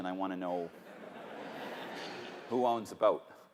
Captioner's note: laughter